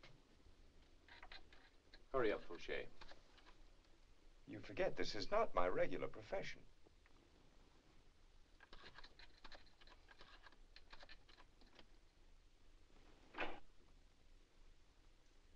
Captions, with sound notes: - Hurry up, Fouche. - You forget, this is not my regular profession. (tool scratching) (lock clicks)